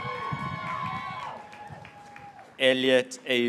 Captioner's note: graduates cheering